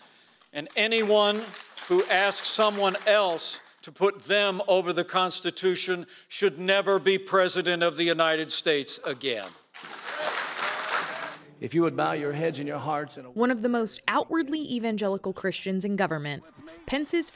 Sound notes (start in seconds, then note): 9.7 cheering and applause